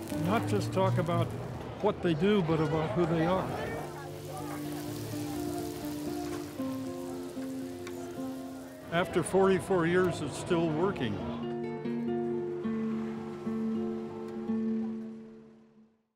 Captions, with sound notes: Not just talk about what they do, but about who they are. (sizzling) After 44 years, it's still working. (guitar music)